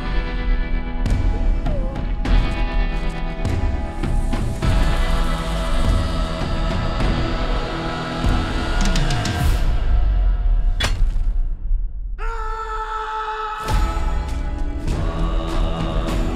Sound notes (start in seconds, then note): 12.2 screaming in delight